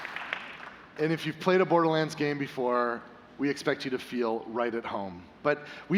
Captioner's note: applause